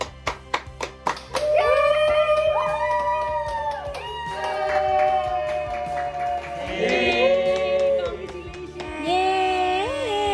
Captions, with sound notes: (families cheering) - Congratulations! - Yay!